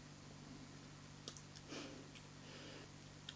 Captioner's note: smacks lips; chuckles softly